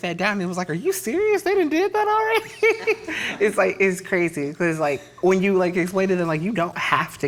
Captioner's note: laughs